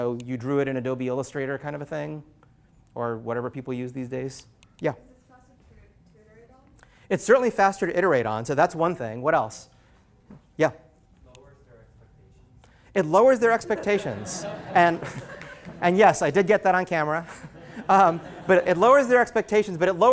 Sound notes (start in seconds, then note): 13.6 laughter